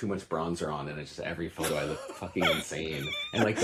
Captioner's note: laughing